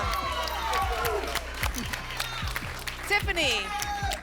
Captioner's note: applause